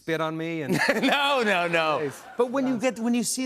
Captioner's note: laughter